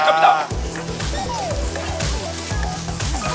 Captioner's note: sizzling